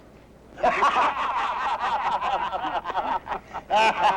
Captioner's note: men laughing